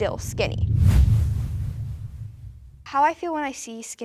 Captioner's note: percussive whoosh